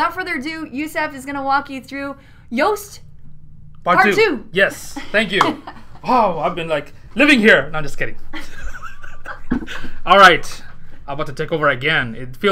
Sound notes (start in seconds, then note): 8.3 laughter